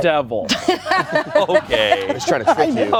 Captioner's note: everyone laughs